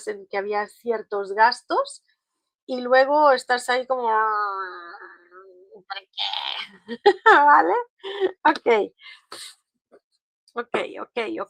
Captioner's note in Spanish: risas